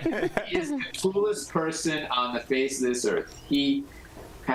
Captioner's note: laughter